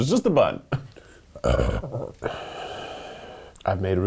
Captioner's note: burps